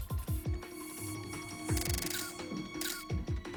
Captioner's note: <i> camera shutter clicking</i>